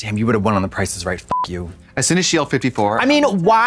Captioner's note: beep